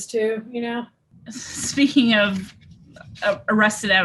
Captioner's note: laughs